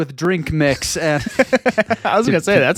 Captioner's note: laughing